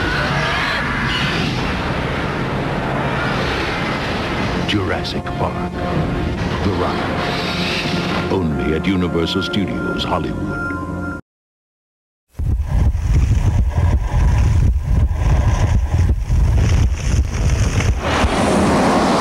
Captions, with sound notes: Jurassic Park, the Ride. Only at Universal Studios Hollywood. [fire sounds]